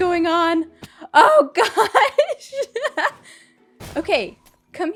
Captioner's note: laughs